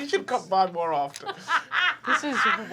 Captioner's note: laughing